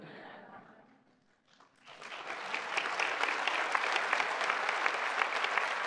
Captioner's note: applause